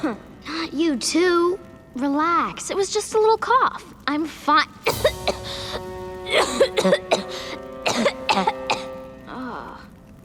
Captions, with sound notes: Not you too. Relax. It was just a little cough. I'm fine. [coughing] [groaning]